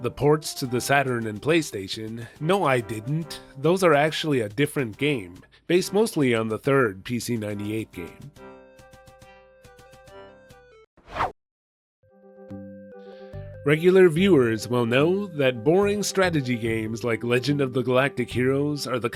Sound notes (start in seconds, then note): 11.0 whoosh!